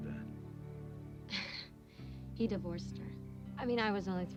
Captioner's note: chuckles